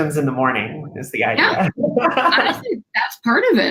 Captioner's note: laughter